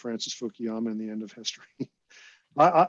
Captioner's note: laughs